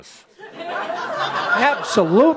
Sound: laughter

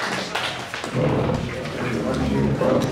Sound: chairs scraping

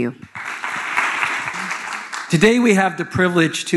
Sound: audience applauding

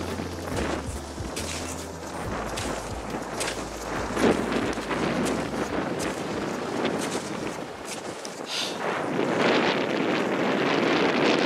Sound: heavy wind

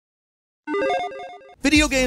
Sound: electronic chiming

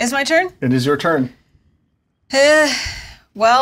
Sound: sighs

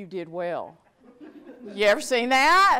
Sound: audience laughs

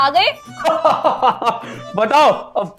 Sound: Santa laughing

